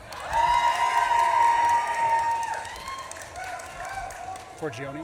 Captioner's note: audience claps and cheers